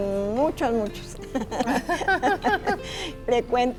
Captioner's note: laughter